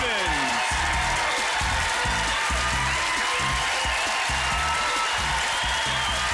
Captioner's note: applause